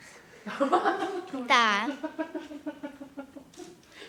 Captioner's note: A woman's surprised laughter